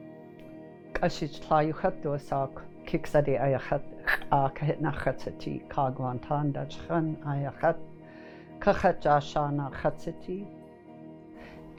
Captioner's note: speaking indigenous language